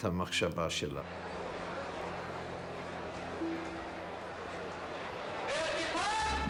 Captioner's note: spectators chattering